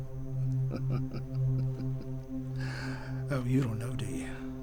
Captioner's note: chuckles